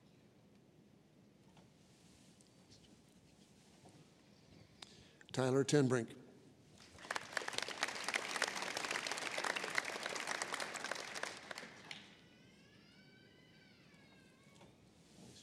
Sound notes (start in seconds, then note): 6.8 applause